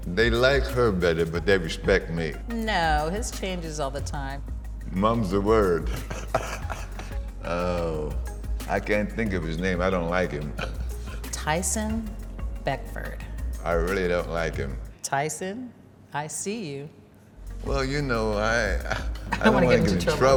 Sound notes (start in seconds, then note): 5.8 laughs; 10.6 chuckles